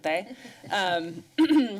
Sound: laughter

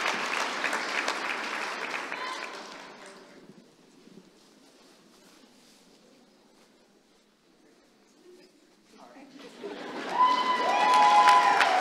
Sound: applause

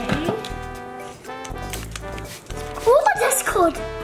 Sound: water spraying

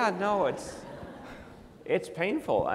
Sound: audience laughs

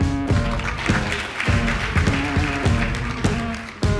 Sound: upbeat music; applause

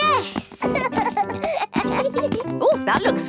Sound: both laugh

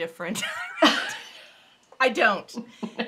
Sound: laughing

